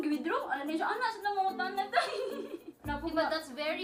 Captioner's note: giggles